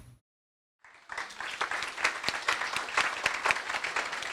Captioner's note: applause